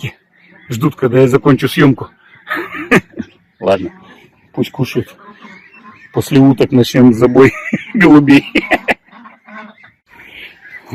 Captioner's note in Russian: смех